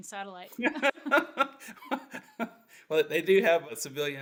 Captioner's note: laughs